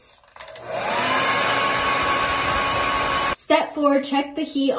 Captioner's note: blow dryer noise